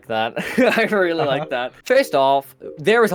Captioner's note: laughs